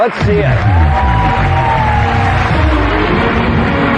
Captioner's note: cheering and applause